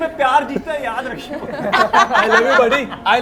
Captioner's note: laughs